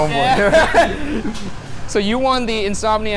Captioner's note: laughing